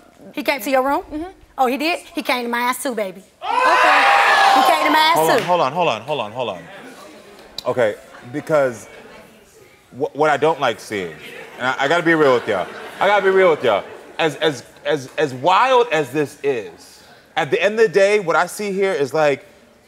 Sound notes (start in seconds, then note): 3.2 audience oohing; 10.9 audience chattering